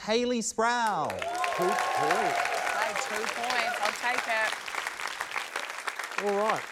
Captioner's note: cheering, applause